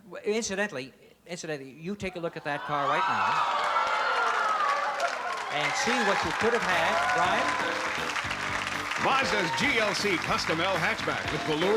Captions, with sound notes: incidentally--incidentally, you take a look at that car right now. [cheering] And see what you could have had. Brian? - Mazda's GLC custom L hatchback with velour